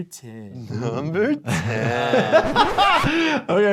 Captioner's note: laughing